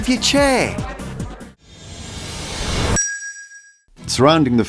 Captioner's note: whoosh sound